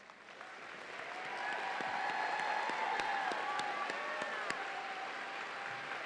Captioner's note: audience applauds and cheers